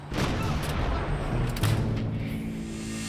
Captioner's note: loud blast